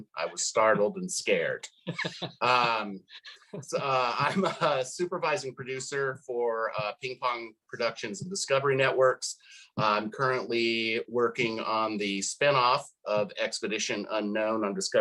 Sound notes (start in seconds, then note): 1.6 laughs